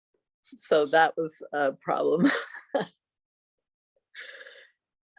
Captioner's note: chuckles